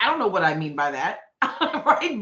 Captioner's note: laughing